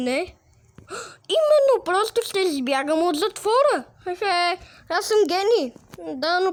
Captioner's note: gasp